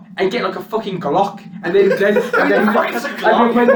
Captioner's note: laughs